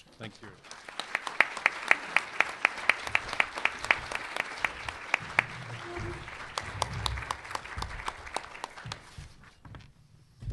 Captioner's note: applause